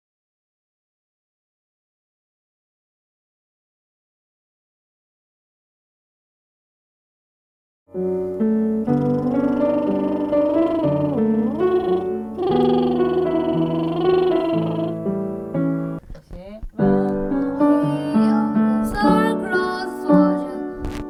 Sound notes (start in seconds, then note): 8.9 playful sound effects